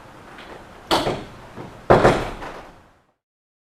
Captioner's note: sounds of door closing